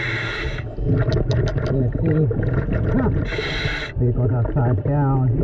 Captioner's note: taps on wheel